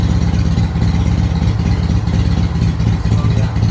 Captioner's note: engine slows way down, starts to lope